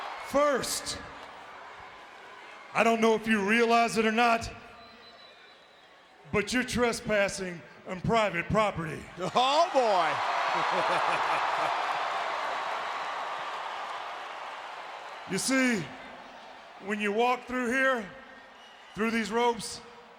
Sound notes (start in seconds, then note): 10.3 crowd cheering